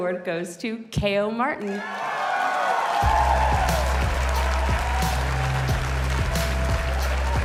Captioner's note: cheers and applause